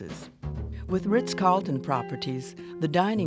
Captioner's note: voiceover